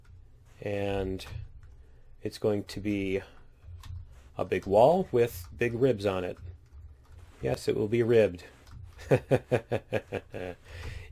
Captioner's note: laughs